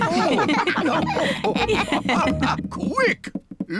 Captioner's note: all laugh